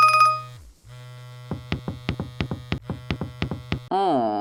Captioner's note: phone ringtone; steps